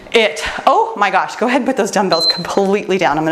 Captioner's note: timer beeps